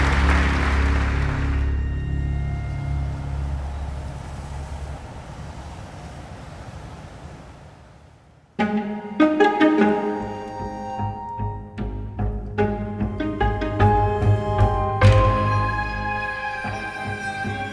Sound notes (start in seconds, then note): 2.9 ocean noise; 8.7 upbeat music